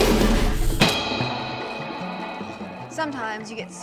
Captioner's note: chop